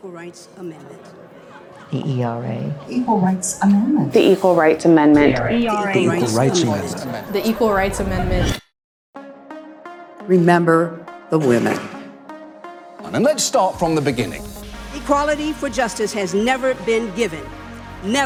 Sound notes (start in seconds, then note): 0.0 crowd chatting; 9.0 air whooshes; 12.1 upbeat instrumental music